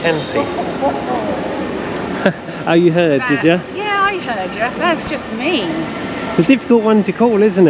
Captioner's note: laughs